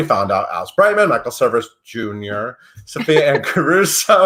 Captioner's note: laughs